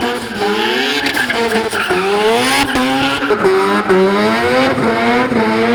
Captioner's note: crowd cheering; car engine roaring; tires squealing